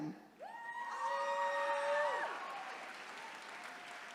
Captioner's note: attendees cheering